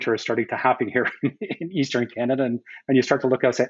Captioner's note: laughs